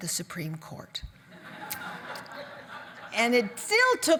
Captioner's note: audience laugh